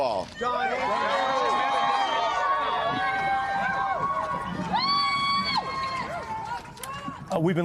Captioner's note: cheers and applause